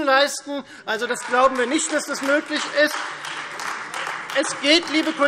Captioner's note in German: Heiterkeit und Beifall